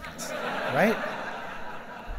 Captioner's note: laughing